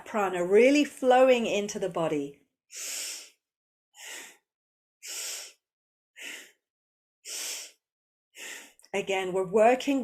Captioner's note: breathes